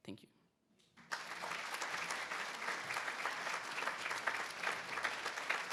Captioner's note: attendees applauding